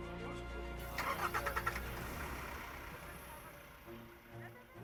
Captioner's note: engine turns over; dramatic music